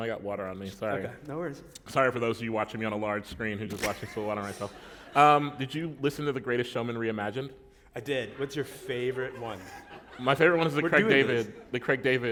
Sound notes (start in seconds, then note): 6.1 laughter; 10.1 laughter